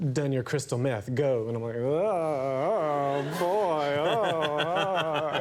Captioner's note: groans; audience laughing